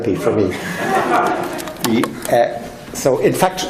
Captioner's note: laughing